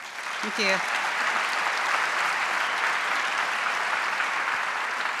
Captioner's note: audience applauding